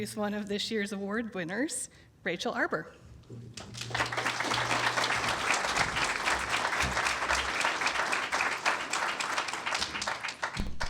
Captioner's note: applause